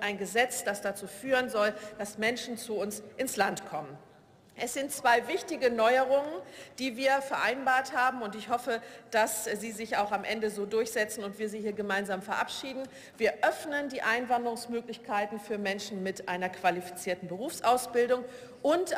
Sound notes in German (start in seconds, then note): none